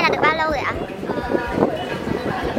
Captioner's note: confused noise